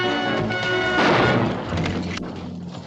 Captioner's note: gunshot